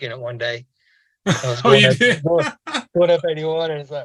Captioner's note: laughing